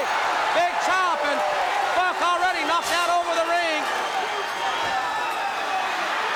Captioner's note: crowd cheering